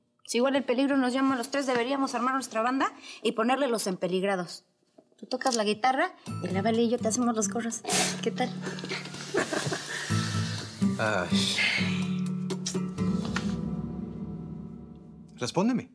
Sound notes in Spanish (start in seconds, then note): 8.8 risas